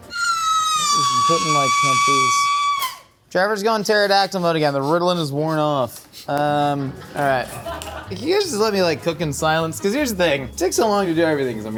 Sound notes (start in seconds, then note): 0.6 screaming; 7.5 crew laughing